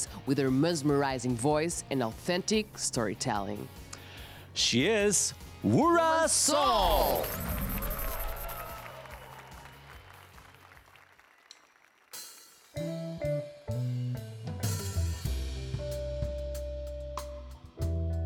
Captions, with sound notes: with her mesmerizing voice and authentic storytelling. She is Wura Sol [APPLAUSE AND CHEERS]